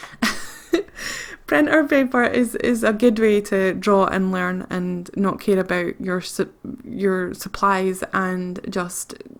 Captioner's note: laughs